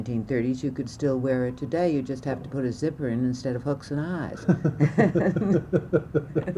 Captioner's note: laughter